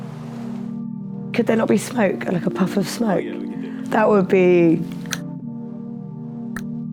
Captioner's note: click